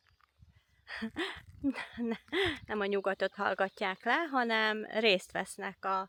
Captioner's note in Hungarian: nevetés